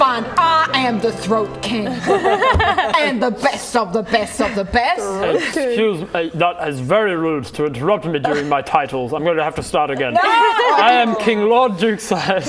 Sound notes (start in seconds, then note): 2.0 laughing